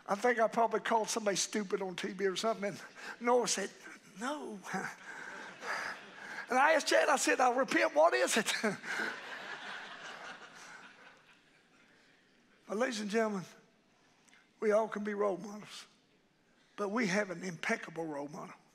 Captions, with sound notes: I think I probably called somebody stupid on TV or something. Noah said "No." And I asked Chad, I said "I'll repent, what is it?" (congregation laughing) Ladies and gentlemen, we all could be role models, but we have an impeccable role model.